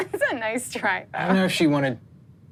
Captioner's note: giggles